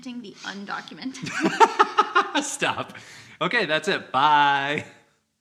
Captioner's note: laughs